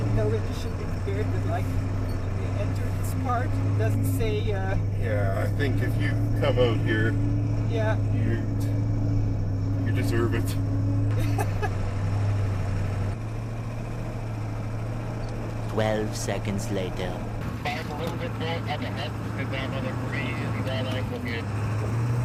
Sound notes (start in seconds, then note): 11.1 laughing; 12.8 wind blowing